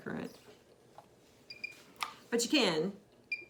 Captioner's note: machine beeps